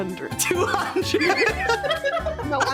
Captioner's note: all Laughing